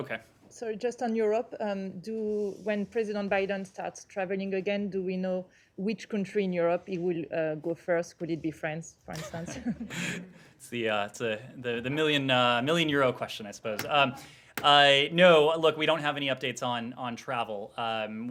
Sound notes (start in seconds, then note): 9.1 laughter